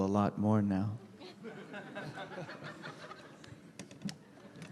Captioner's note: laughter